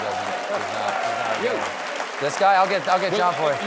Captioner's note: cheers and applause